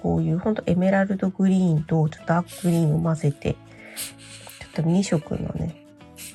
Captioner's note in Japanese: 鼻息